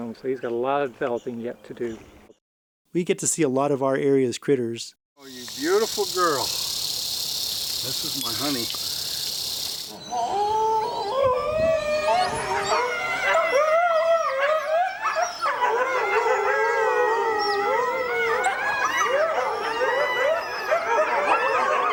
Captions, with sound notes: So he's got a lot of developing yet to do. We get to see a lot of our area’s critters. Beautiful girl. This is my honey [Howling]